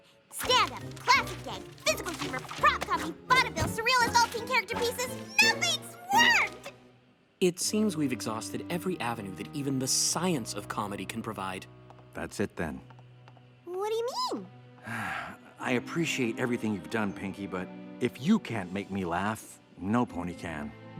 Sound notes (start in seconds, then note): 14.8 sigh